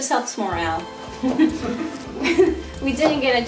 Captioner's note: laughing